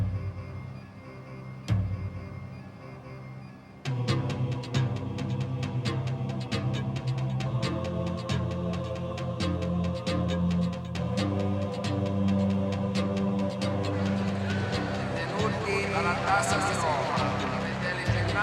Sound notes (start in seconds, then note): 15.3 announcer speaking italian